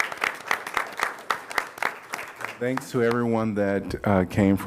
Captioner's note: applause